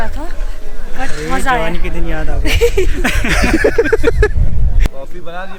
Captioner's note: laughs